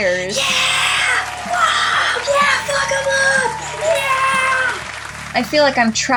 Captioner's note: cheering; applause